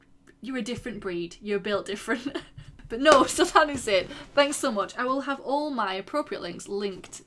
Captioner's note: laughing